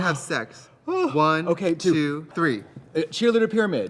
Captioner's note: exclaims